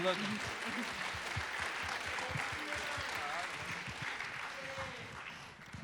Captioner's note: applause